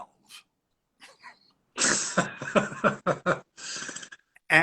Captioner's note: both laugh